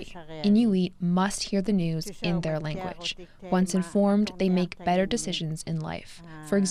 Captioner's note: speaking Indigenous Language